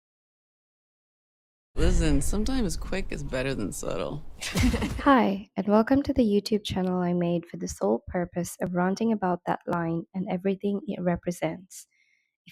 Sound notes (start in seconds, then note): 4.4 laughs